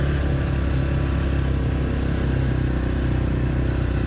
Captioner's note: bike engines roaring